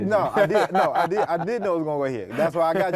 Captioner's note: laughs